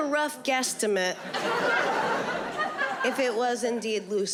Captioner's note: audience laughing